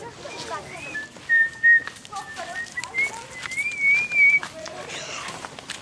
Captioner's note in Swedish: visslar vidare